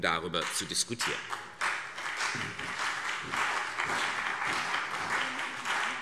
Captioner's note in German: Beifall CDU und BÜNDNIS 90/DIE GRÜNEN